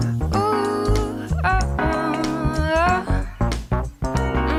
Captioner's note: vocalizing